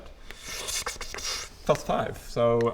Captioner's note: noises to hide disappointment